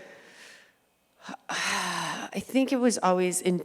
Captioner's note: sighs